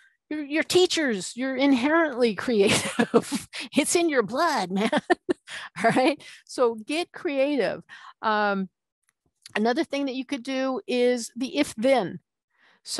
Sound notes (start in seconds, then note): 2.6 laughing